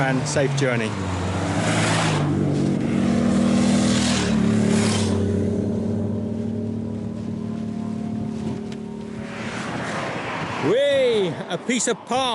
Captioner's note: passing motor bikes